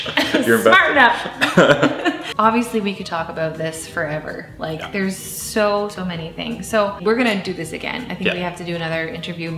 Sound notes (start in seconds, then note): 0.0 laughing